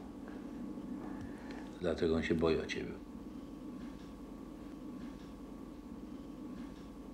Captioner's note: speaking Polish